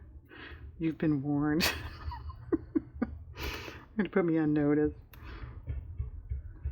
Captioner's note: laughs